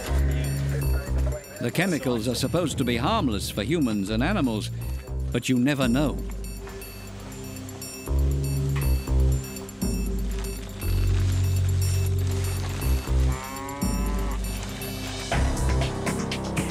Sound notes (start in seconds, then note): 13.1 cow mooing; 15.3 dramatic music